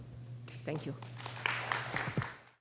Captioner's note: applause